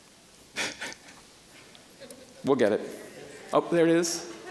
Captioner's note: chuckling